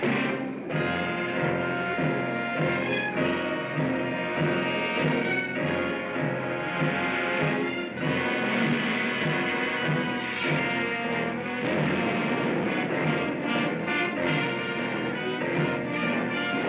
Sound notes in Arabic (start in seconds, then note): 0.2 موسيقى درامية; 10.1 صوت زاب; 11.6 بوم; 14.2 موسيقى درامية